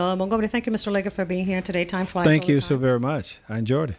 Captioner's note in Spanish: Hablando ingl\s